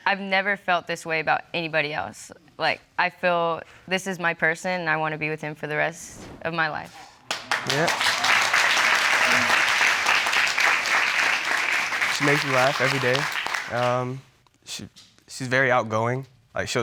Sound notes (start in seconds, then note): 7.3 audience applauds